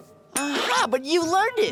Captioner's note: sighing